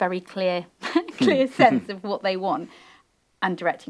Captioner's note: panel laughing